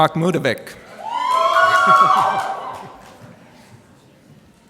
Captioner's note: cheering